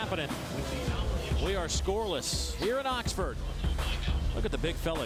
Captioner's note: crowd noise